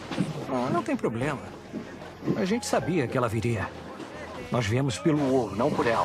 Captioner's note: none